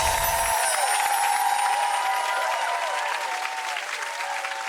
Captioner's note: audience cheering